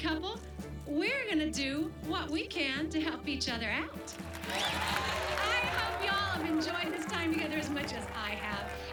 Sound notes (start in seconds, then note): 4.0 cheers and applause